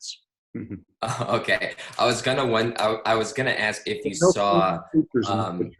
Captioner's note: chuckles